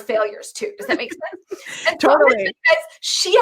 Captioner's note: laughing